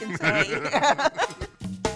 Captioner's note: laughter